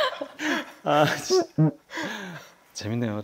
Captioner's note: sniffle